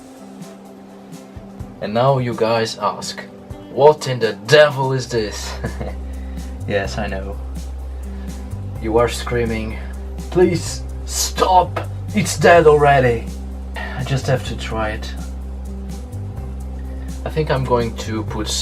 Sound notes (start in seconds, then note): 5.5 giggles